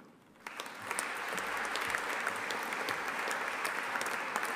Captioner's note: audience applauding